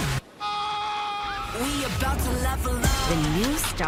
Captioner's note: screams